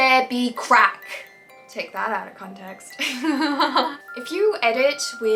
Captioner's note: laughs